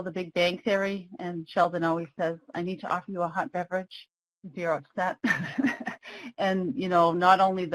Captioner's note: laughs